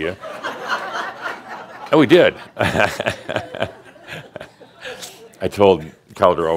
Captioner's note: laughter; Adamus chuckles